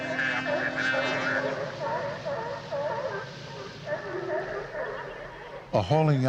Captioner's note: ship Captain speaking; sea Lions Barking